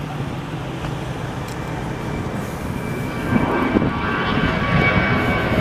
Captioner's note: airplane engines roaring